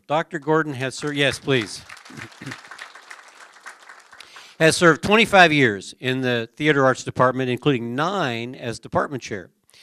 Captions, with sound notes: DR. GORDON HAS HER -- YES PLEASE. [ APPLAUSE ] HAS SERVED 25 YEARS IN THE THEATER ARTS DEPARTMENT INCLUDING NINE, AS DEPARTMENT CHAIR.